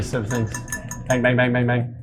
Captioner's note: glass clinking